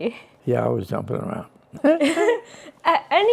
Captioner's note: laughs